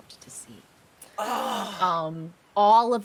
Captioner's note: person gasping